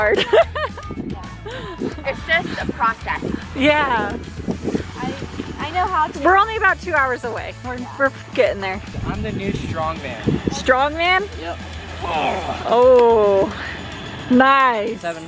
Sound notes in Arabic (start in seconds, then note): 4.3 تضحك; 7.2 يضحك